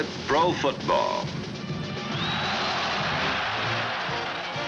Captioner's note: cheering